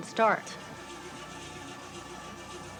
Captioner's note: engine sputtering